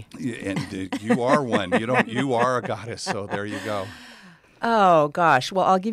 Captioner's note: laugh